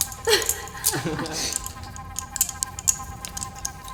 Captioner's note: David laughing